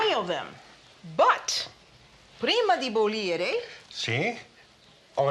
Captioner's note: speaking Italian